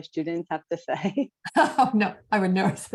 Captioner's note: laughter